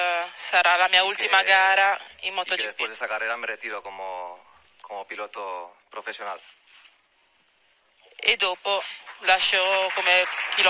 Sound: applauses

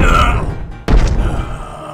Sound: ground being pummelled at force

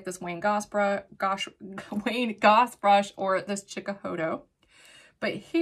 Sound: chuckles

